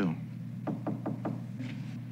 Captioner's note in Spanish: Llamando a la puerta